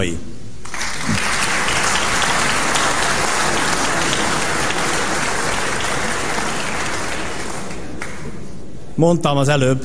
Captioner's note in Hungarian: Taps a kormánypártok soraiban